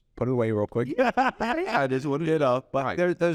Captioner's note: laughs